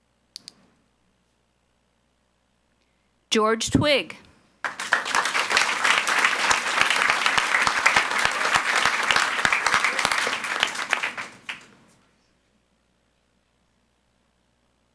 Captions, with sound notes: George Twigg. (audience applauds)